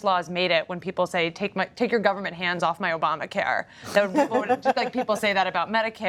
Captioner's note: laughter